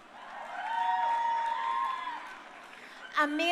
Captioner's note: crowd cheering